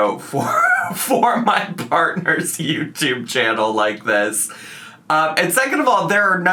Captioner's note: laughs